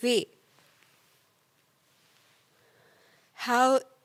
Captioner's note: rustling